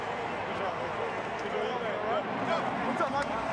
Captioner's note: on field chatter